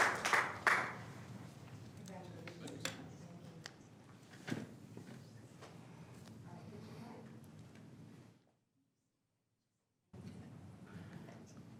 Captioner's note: applause